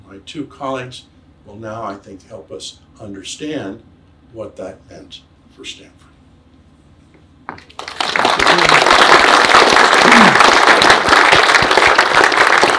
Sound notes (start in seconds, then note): 7.6 audience applauds